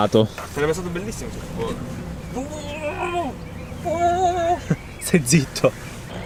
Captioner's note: imitating the powerslide/mud splashing noises